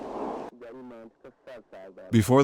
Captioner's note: man speaking foreign language